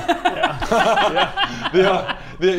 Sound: cruel giggles

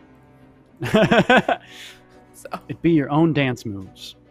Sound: laughing

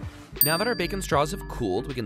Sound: dings

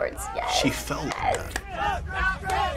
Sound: claps

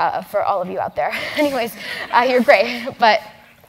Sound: laugh

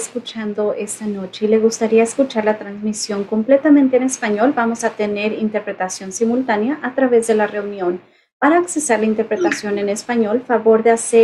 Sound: spanish

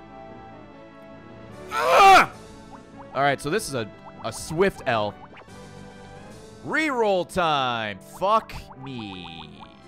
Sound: screams

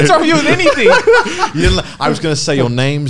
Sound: laughing loudly

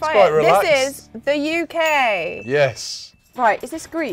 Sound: bell dings

